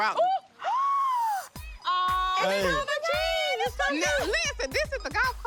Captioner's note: gasp